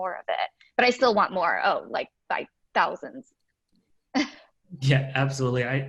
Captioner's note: laughing